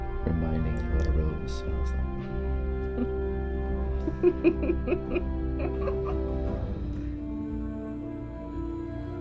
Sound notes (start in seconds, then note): 4.0 laughing